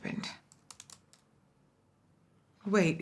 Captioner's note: keyboard clicking